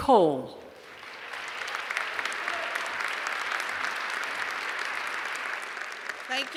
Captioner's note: applause